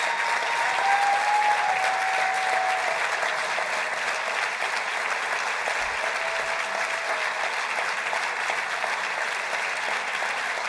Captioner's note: cheers and applause